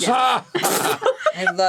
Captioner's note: laugh